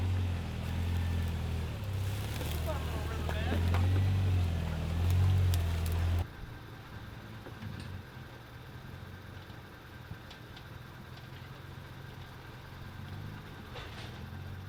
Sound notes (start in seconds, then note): 3.1 engine revving